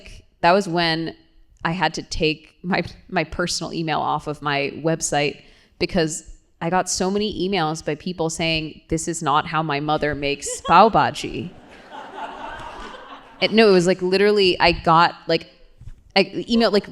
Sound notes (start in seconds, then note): 11.2 laughter